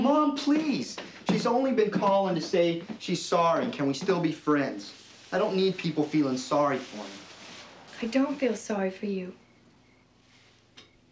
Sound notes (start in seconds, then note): none